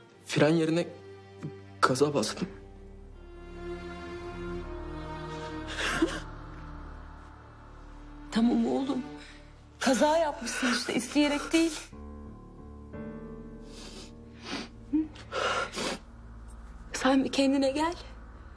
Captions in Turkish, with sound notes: ...fren yerine... ...gaza bastım. (Ağlıyor) Tamam oğlum. Kaza yapmışsın işte. İsteyerek değil. Sen bir kendine gel.